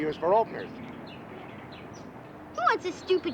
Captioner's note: birds singing